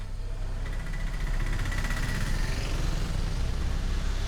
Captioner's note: auto rickshaw approaching